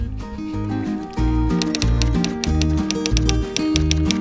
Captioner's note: typewriter tapping